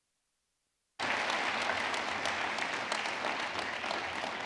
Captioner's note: audience clapping